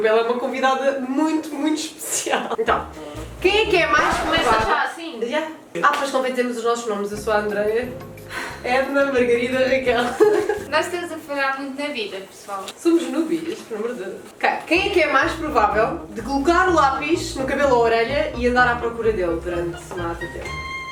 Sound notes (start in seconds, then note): 8.3 sigh; 10.0 laughs